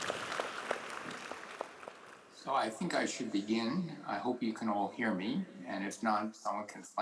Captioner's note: applause